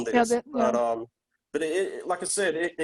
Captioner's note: clears voice